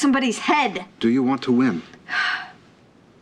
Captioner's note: sighs